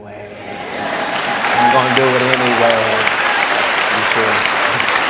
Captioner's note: congregation applauds